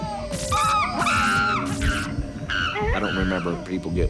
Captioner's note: chimpanzee shrieking